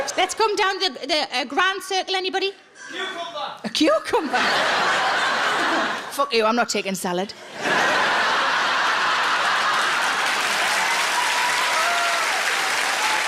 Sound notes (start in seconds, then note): 4.1 audience laughs; 7.4 audience laughs; 10.2 audience applauds